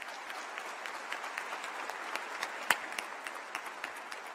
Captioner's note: applause